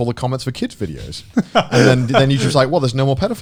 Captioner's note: Garnt laughing